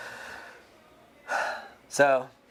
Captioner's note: sighs